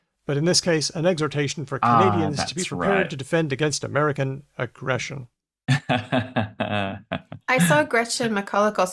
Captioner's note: laughs